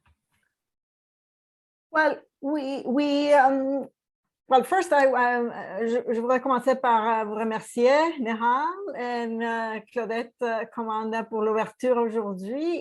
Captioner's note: speaks french